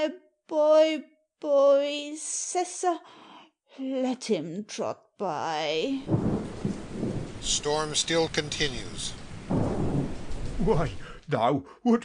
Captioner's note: storm still continues